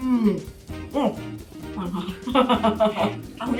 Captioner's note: laughs